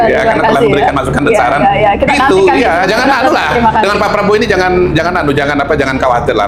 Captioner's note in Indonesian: tertawa